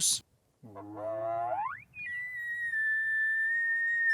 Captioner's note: horn wailing